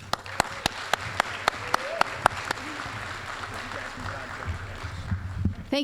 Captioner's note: applause